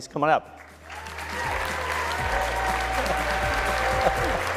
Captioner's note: cheers, applause